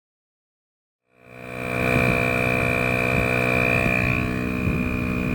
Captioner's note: compressor humming